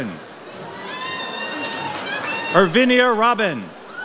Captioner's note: audience cheers